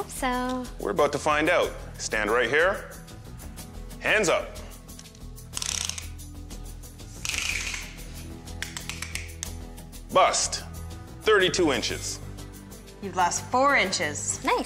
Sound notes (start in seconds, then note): 5.4 tape measurer clicks